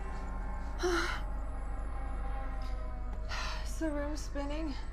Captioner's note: Sara panting